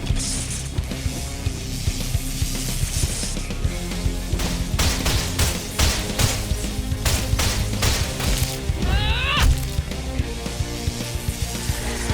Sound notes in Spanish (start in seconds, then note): 9.6 impacto